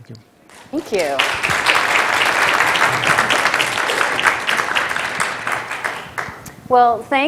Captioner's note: applause